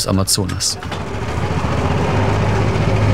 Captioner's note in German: Lautes Motorenrattern